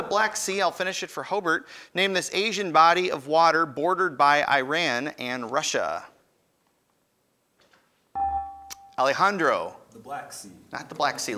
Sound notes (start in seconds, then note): 8.1 ding